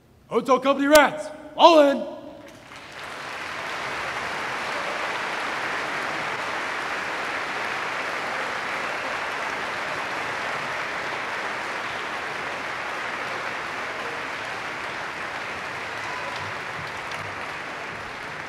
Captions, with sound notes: Hotel Company rats, fall in! [APPLAUSE]